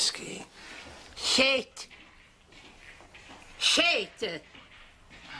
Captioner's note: speaking gibberish